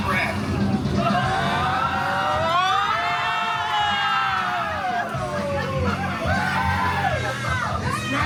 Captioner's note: guests screaming and laughing